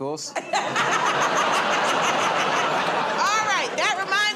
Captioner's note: laughter